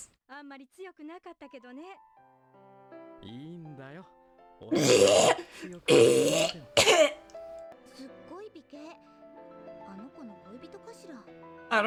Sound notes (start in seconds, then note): 4.8 wretching